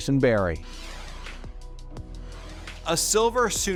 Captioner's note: logo whooshes softly